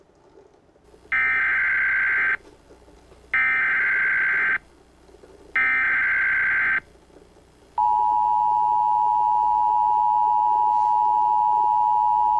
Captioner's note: EAS tones